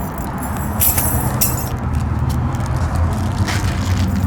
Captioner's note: keys clanking